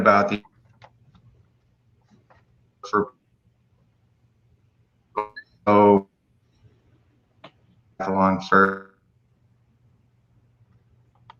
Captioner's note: unstable audio; no audio